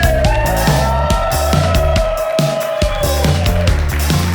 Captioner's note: crowd cheering; crowd clapping